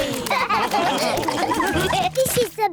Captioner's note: all laugh